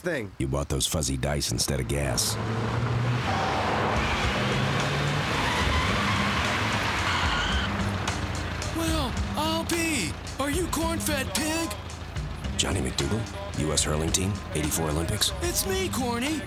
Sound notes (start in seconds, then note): 2.9 engine roaring; 5.8 tires squealing